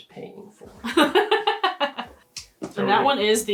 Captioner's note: laughs